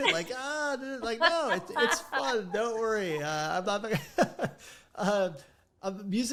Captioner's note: laughing